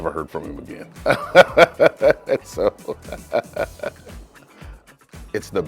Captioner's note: laughter